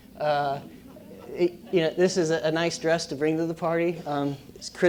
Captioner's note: laugh